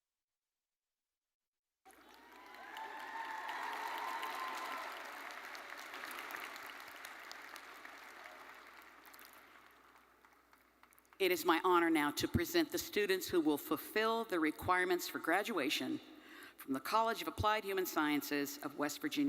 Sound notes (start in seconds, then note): 1.8 audience cheering and applauding